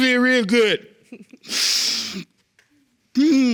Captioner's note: chuckles; sniffling